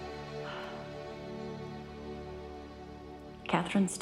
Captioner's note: exhaling